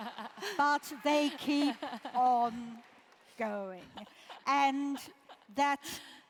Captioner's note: laugh